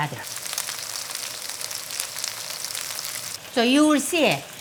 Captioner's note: oil popping